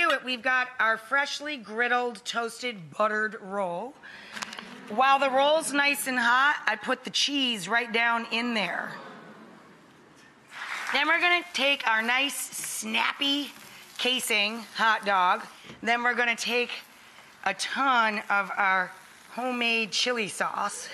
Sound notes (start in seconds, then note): 8.7 audience oohing